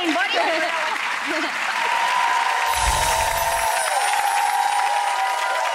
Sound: audience cheering and clapping

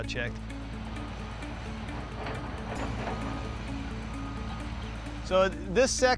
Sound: flowing water and machinery engines

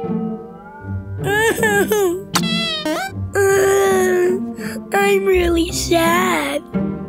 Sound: sobs

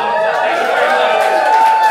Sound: applause

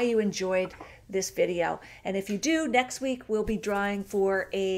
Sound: none

